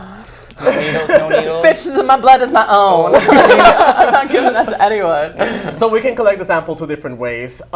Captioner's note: laughs